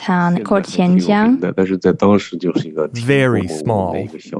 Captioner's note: speaking Mandarin Chinese